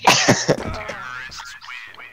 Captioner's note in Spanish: Risas